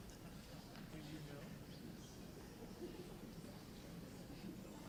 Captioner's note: audience chatter